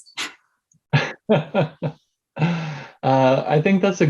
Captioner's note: laughs